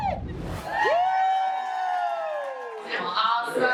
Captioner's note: all cheering